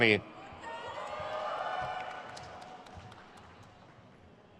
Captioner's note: crowd cheers